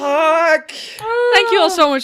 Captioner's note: distressed noises